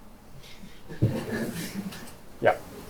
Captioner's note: laughter